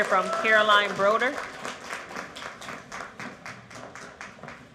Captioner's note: cheering; applause